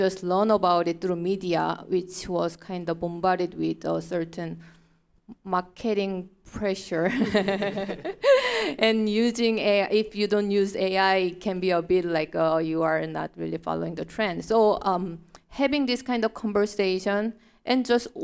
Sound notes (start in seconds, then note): 7.3 laughing